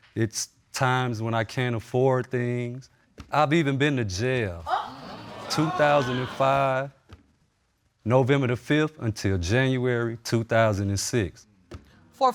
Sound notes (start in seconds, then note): 4.7 audience gasp